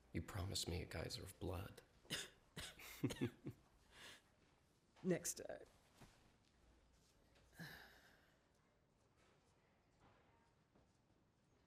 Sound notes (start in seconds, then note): 2.0 coughs; 2.8 chuckles